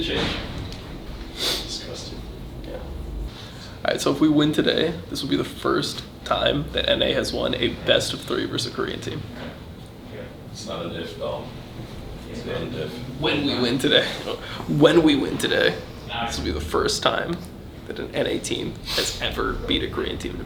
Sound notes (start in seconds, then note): 13.8 laughs